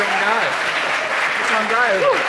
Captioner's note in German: Applaus und Jubel